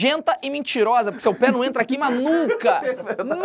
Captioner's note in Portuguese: risadas